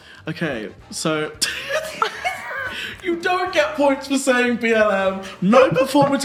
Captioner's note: laughing